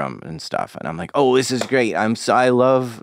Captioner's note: hands clapping